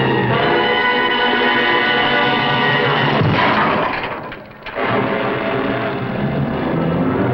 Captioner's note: hammering